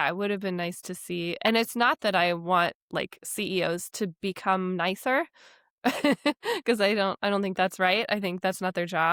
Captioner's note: laughs